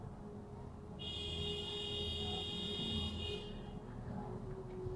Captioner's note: other car blaring their horn at this idiot